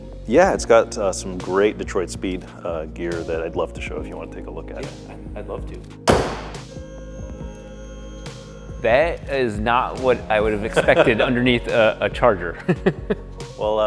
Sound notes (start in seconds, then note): 6.0 hood slams; 7.2 machine whirring; 12.9 laughs